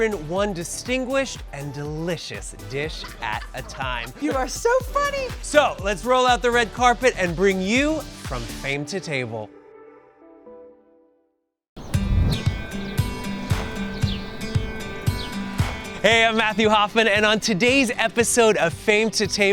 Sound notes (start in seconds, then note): 11.8 birds chirping; 12.0 upbeat music